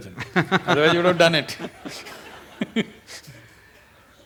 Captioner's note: few Laugh